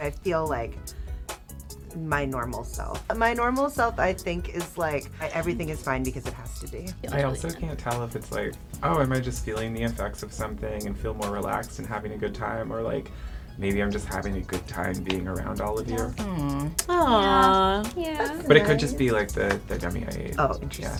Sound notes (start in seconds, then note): 16.8 in Unison